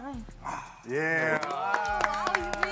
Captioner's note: applauds